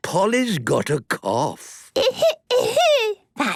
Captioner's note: coughing